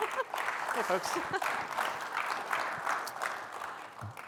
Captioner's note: applause